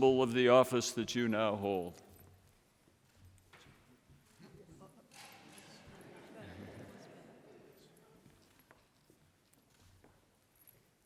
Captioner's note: laughter